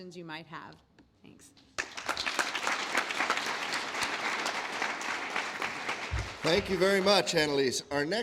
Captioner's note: applause